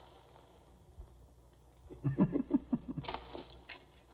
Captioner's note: chuckles